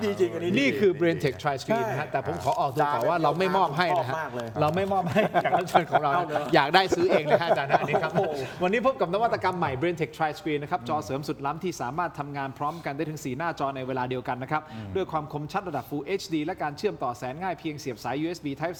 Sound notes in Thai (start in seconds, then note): 7.9 เสียงหัวเราะ